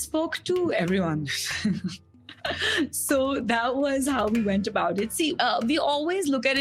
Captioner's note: laugh